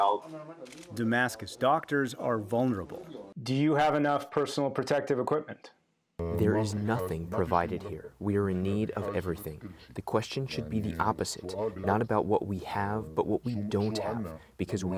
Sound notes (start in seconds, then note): 5.7 through translator